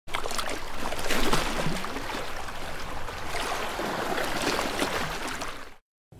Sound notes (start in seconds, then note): 0.0 wave noises